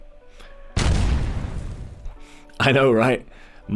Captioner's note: explosion